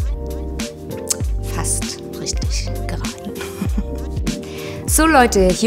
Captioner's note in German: lacht